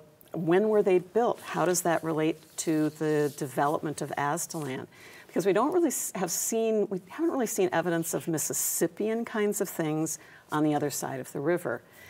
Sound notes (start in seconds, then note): none